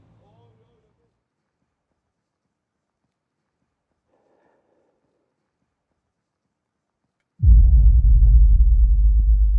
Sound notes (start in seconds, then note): 1.2 breathing; 7.4 suspense music